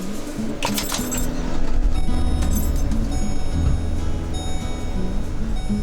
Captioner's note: engine starting